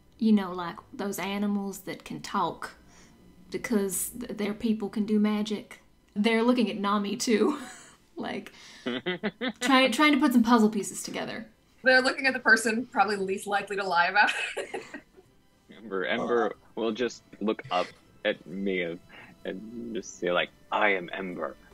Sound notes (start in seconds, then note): 8.8 laughs; 14.2 chuckes